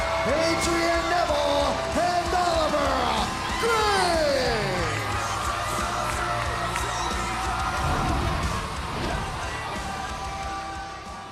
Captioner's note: crowd cheering